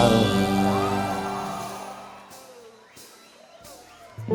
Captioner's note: crowd cheers